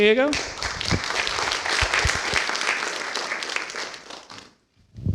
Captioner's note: applause